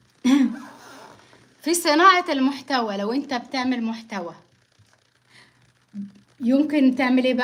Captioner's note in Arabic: تنحنُح